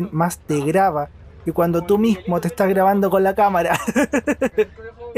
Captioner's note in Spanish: risas